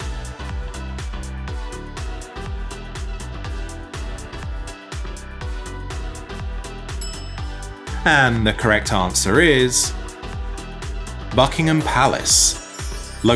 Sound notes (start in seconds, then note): 7.0 bell clinking